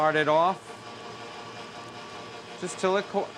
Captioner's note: motor